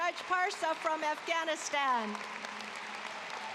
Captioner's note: cheering, applause